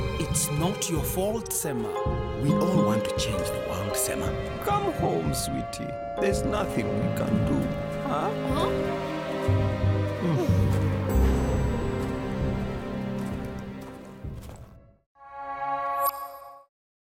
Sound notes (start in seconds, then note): 10.1 Moyo sighs